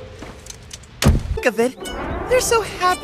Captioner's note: smack